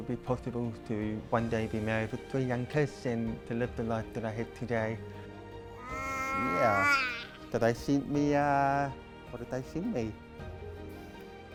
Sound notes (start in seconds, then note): 5.8 baby babbling